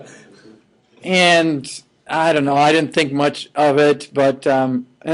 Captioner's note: laughing